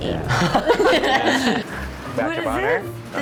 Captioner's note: all laugh